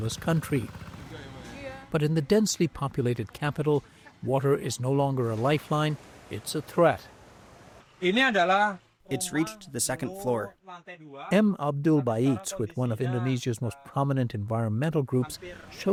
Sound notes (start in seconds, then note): 9.4 through translator